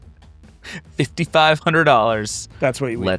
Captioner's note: chuckle